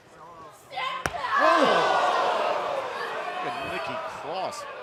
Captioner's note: crowd cheering